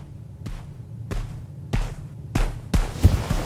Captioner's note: footsteps approaching